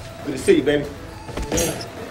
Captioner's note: swing creak